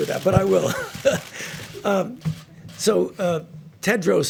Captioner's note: laughs